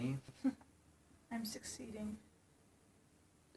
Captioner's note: chuckles